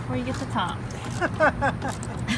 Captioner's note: laughter